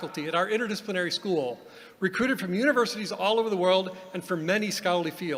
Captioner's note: none